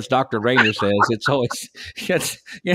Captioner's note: laughing